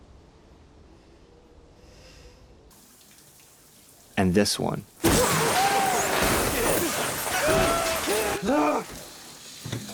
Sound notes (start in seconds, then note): 5.5 yelling